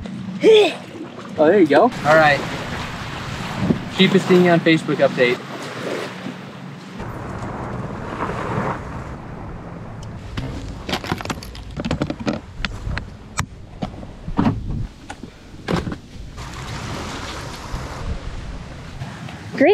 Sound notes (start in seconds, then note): 0.0 laughs; 0.2 heaving; 3.8 water lapping; 7.8 boat dragging; 15.5 boat dragging